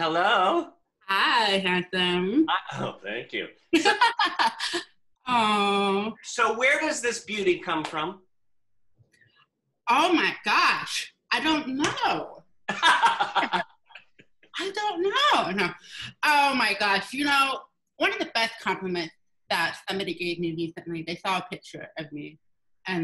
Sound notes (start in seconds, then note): 3.7 laughs; 12.7 laughs